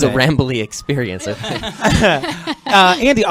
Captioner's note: laughter